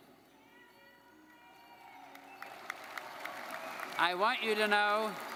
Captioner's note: audience cheering and applauding